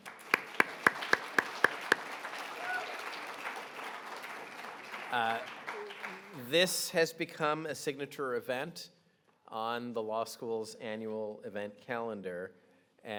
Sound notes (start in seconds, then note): 0.0 audience applauding; 2.6 audience cheering